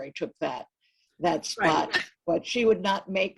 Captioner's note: laughs